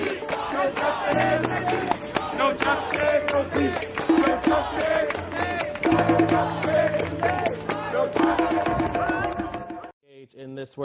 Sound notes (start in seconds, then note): 0.2 CHEERING "George Floyd!" OVERLAPS; 4.0 crowd chants continue